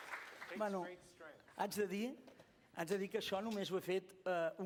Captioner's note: non-english speech